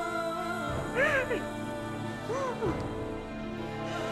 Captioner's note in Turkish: İlbilge ağlama sesi